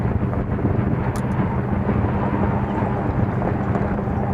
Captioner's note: wind noise